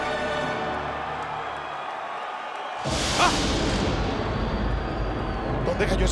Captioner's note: applause